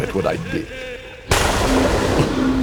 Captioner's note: thunder